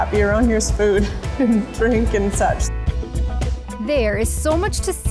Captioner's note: laughing